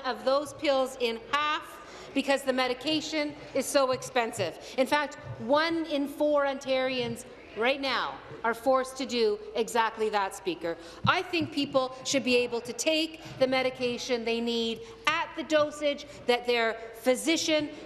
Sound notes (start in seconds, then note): none